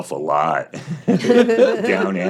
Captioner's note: all laughing